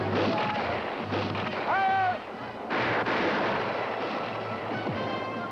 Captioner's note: gunshots; gunshots